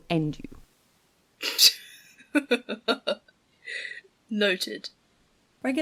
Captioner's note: laughs